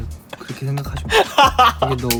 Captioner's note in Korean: 웃음